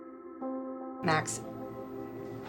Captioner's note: voiceover